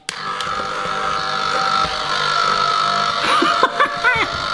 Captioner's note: ice cream maker whirring; gentle choral music; laughs